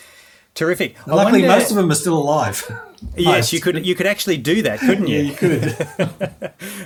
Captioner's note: both laughing